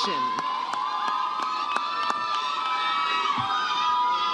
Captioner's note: audience cheers